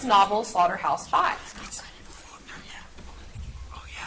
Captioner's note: contestants whisper